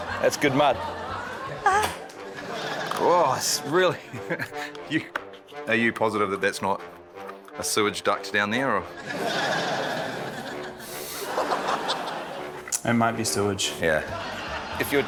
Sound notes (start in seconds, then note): 2.3 laughs; 9.0 laughter; 10.8 exhales